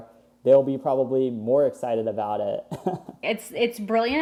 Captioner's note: laughs